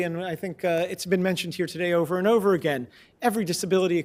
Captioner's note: none